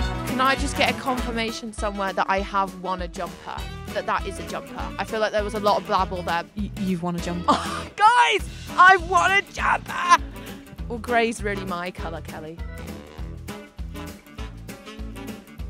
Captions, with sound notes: Can I just get a confirmation somewhere that I have won a jumper, that that is a jumper? I feel like there was a lot of blabble there. You've won a jumper. [scoffs] Guys! I've won a jumper! Well, gray's really my colour, Kelly.